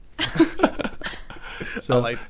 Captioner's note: group laughs